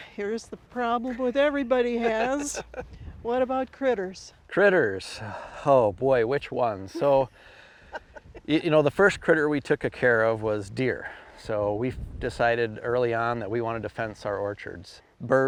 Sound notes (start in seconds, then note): 2.0 laughing; 6.9 laughing